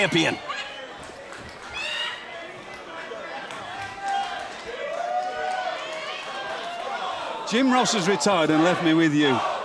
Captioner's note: crowd cheering